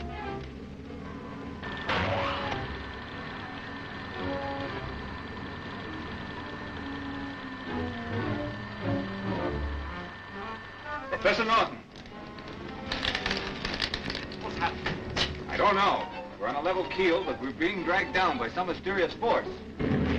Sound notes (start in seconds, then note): 1.3 ray whirring; 1.3 soft expectant music; 19.7 submarine rumbling; 20.0 soft expectant music